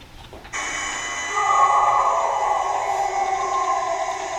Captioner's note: animal howling